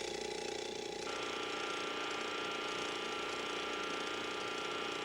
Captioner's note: bed buzzing